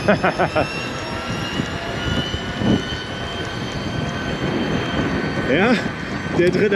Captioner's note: laughter; engine noise